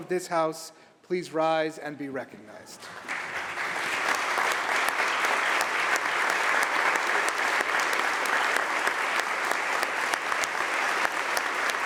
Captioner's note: applause